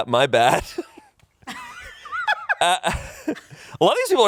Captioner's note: laughs